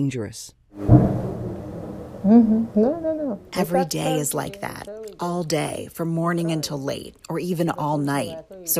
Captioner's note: through translator